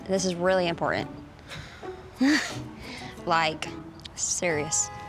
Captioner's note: chuckling